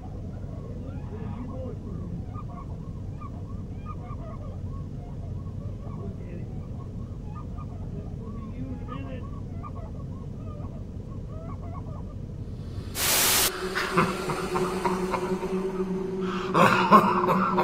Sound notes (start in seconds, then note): 12.8 TV static; 13.4 laughing